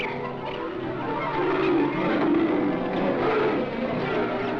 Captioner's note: leopard roars